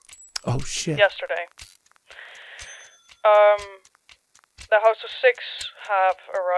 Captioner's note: over the phone